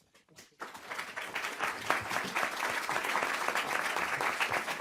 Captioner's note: group applauds